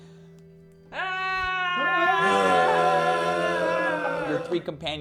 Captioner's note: general screaming